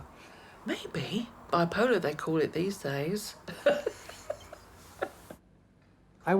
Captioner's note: laughing